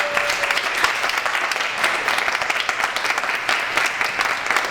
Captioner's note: applause